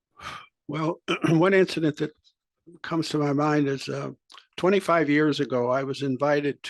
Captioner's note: cough